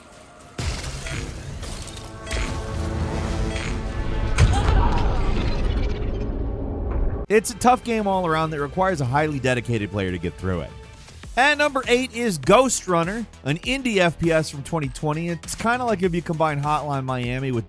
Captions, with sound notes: (gun blasting) (Selene whooshing) (Selene thuds) (Selene grunts) It's a tough game all around that requires a highly dedicated player to get through it. At number eight is "Ghostrunner," an indie FPS from 2020. It's kind of like if you combine "Hotline Miami"